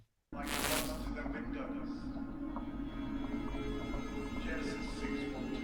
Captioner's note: static crackling; chattering